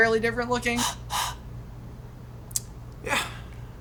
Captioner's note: blowing